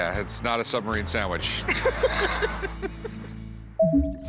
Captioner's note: all laugh; radar pinging